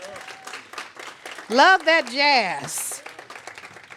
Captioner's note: applause